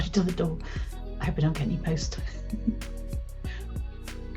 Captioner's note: giggles